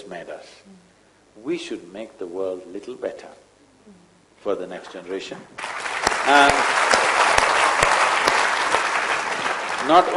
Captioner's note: applause